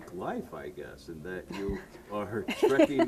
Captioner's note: both laughing